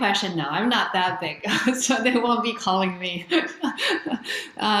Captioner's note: laughs